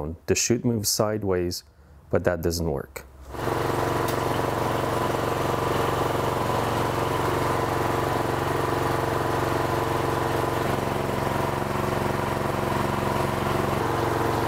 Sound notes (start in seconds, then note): 3.4 snowblower engine roaring